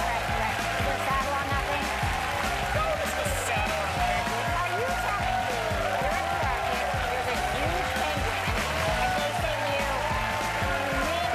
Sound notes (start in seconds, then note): 1.4 cheers and applause